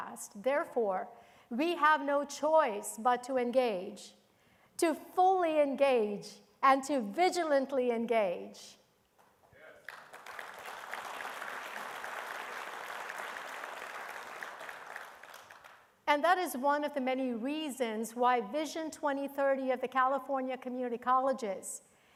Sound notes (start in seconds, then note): 9.8 attendees applauding